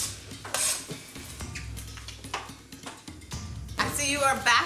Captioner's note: knife sliding